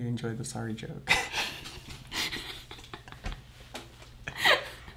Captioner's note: laughing